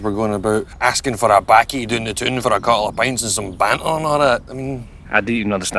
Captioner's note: speaks with a thick Scottish accent